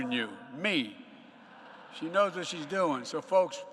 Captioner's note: laughter